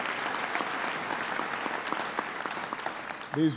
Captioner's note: applause